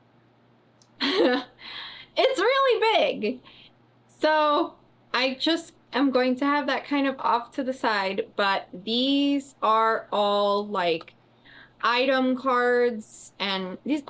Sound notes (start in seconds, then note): 1.0 laughs